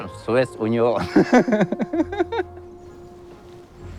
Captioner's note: laughs